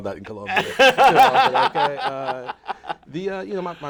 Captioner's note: laughter